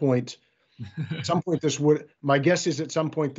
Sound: chuckles

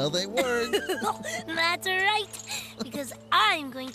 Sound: giggling

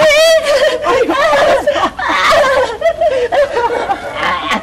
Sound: Emman giggling; laughter

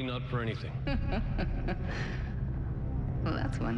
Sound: Sophia laughs

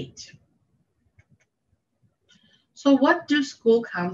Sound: mouse clicking

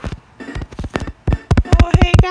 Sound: f oot st e ps

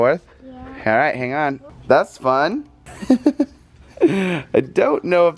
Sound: laughs

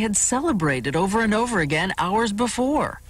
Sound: none

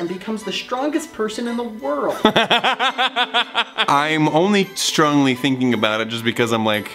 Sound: laughs

